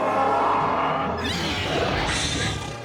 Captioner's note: all screeching